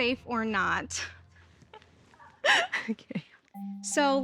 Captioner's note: laughs